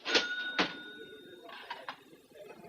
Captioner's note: register rings